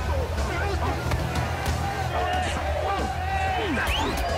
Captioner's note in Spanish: Gritos; Golpes